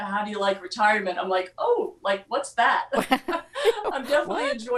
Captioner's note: laughter